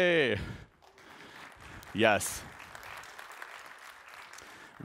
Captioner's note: applause